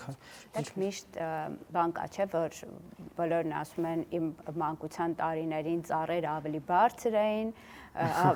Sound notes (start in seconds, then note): 8.0 laugh